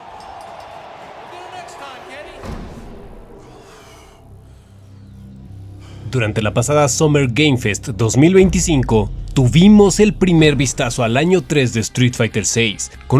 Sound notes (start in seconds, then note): 0.0 crowd noise in the Arena